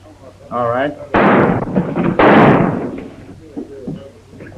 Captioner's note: gun firing